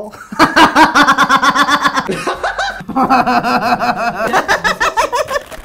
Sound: laughing; still laughing

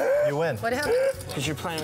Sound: laughing

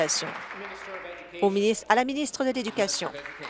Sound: applause

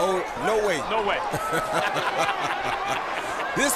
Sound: laughter

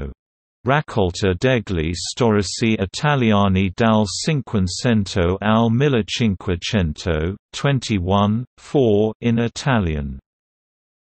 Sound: in Italian

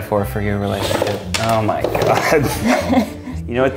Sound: laughing

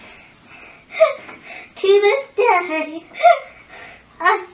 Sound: laughing

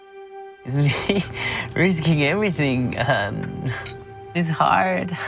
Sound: laughs

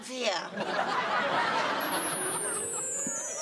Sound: laughter

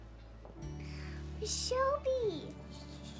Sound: gasps

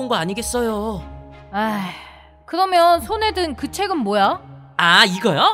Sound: sigh

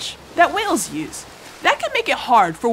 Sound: ocean waves

